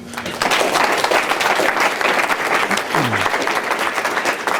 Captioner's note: applause